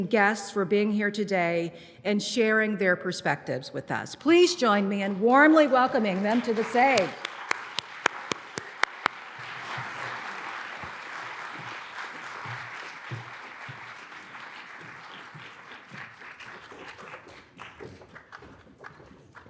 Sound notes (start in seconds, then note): 7.2 applause